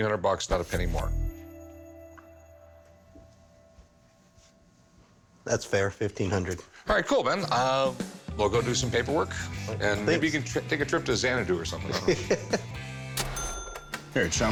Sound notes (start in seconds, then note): 12.6 laughs